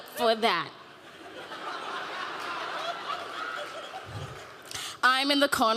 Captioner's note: audience laughing